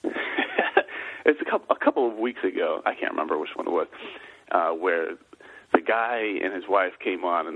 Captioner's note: laughs